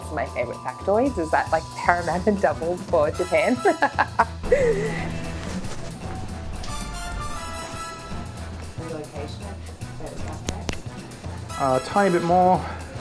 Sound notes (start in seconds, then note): 3.4 laughs